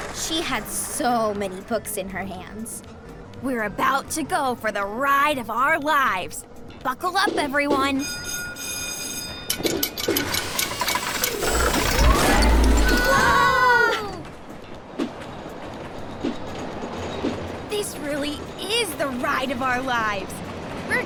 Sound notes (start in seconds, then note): 7.9 bell ringing; 9.4 rollercoaster machinery clinking; 15.2 rollercoaster speeding